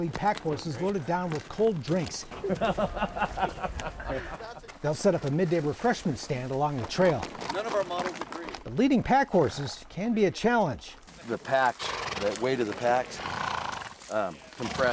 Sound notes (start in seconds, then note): 2.3 chuckling